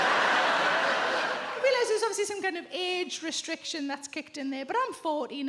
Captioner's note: audience laughs